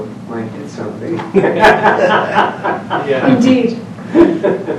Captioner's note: laughs